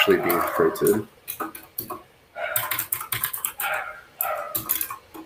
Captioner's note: keyboard clacks